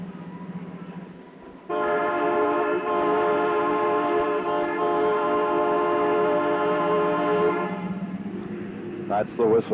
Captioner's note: loud, long train whistle